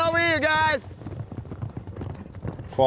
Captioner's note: hooves pounding